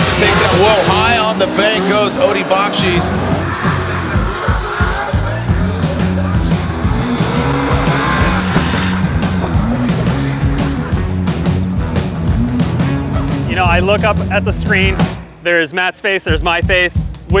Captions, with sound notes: He takes out, whoa, high on the bank goes Odi Bakchis. (car engines roar) (dramatic music) - You know, I look up at the screen, there is Matt's face, there's my face.